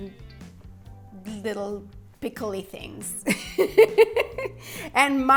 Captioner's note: laughs